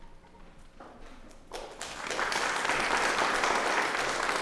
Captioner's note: applause